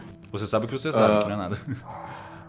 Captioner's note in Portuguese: Risada